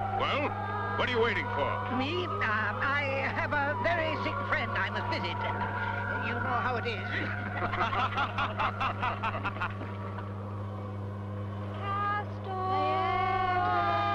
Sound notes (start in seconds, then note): 7.0 laughing